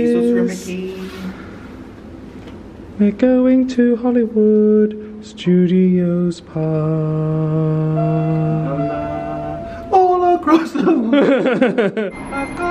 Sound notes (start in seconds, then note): 8.0 lift bell chimes; 10.4 laughs